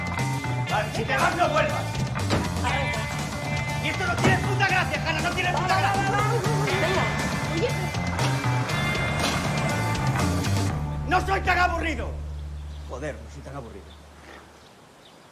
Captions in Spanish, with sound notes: ¡Si te vas no vuelvas! Arranca. ¡Y esto no tiene ni puta gracia! ¡No tiene puta gracia! Va, va, va. Venga. ¡No soy tan aburrido! (SUSURRANDO) Joder, no soy tan aburrido.